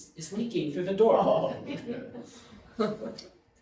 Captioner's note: audience laughing